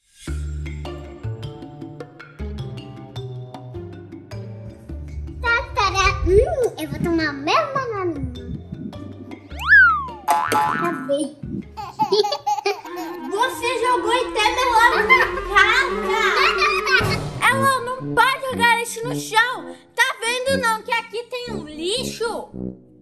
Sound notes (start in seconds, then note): 5.3 humming; 9.6 sliding whistle sound; 11.7 baby giggle